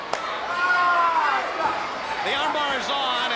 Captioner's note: Ric yelling